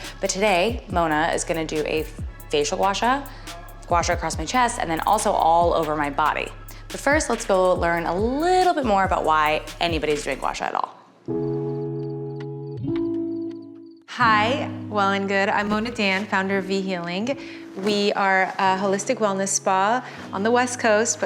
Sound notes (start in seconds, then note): 11.5 crickets chirping